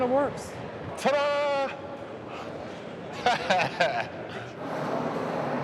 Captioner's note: laughs